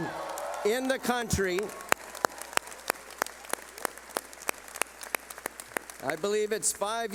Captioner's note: clapping